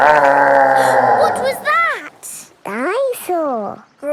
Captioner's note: gasps; growling; laughing